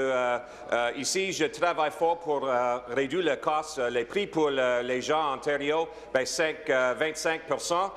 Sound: speaking in French

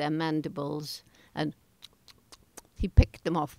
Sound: chewing sounds

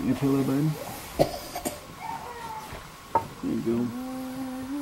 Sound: coughing

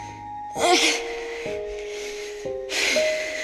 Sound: loud moan

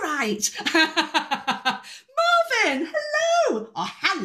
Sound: laughing

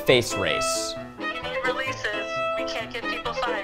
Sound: over Phone

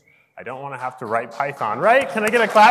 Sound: audience applauds

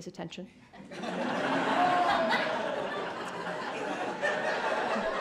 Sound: crowd laughing

